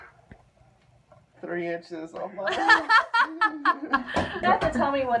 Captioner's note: laughing